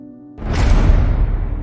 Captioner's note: metal door closing